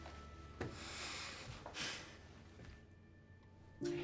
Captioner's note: sighs